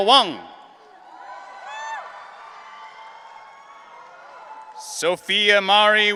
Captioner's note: audience cheering